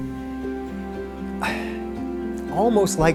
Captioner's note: sighs